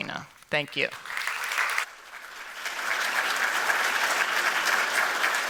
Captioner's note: applause